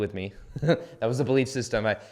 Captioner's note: laughs